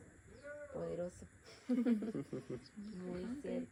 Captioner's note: laughter